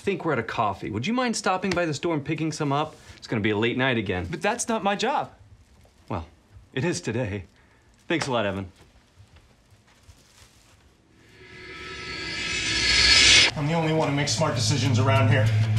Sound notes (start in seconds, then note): 9.5 flash forward sound